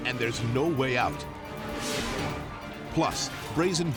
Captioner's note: scene swooshing